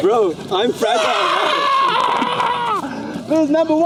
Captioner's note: screams